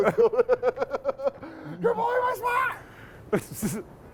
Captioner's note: laughing